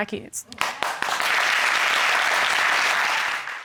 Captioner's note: audience applauding